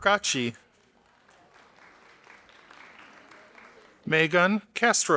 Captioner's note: audience applauding